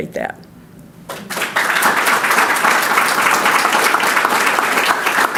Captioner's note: audience clapping